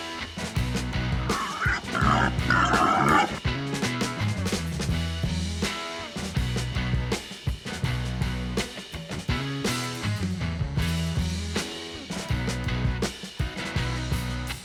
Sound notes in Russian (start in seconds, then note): 1.2 хрюканье кабана